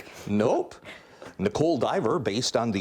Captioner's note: laughing